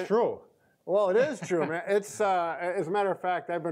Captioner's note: laughs